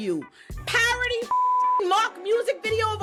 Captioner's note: beep